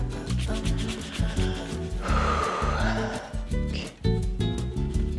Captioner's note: exhales